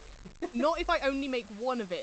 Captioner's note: laughs